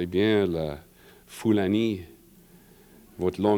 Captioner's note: french